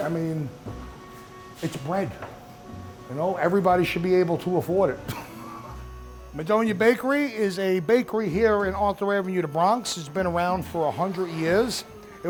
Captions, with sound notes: I mean, it's bread, you know, everybody should be able to afford it. (laughs) Madonia Bakery is a bakery here in Arthur Avenue, the Bronx, it's been around for 100 years.